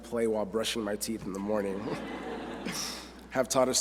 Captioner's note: laughter